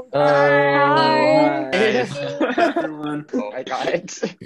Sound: people saying hello

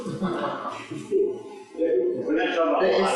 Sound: laughter

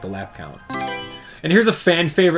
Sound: Mario Selection Sound

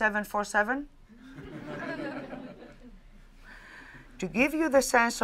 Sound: laughter

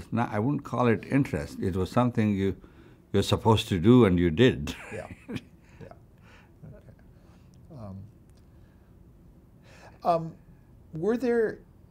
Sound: laughs

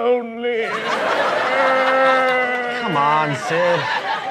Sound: laughter

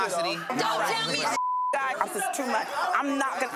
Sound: beep

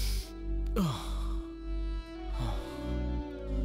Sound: Mallika exhales; inhales

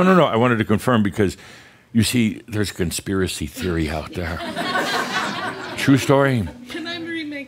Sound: laughter

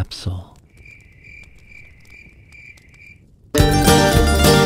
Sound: crickets chirp; upbeat country music

